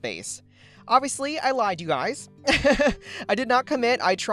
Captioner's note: laughs